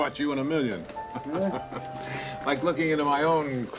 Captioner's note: chuckling